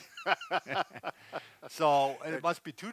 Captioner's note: both laughing